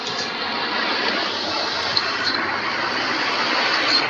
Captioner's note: snowy city Fireworks show